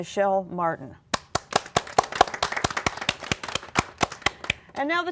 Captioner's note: applause